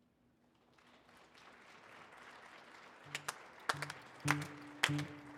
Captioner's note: audience applauding